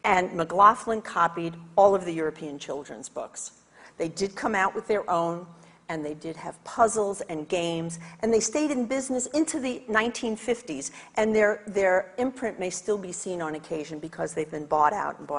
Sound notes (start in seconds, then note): none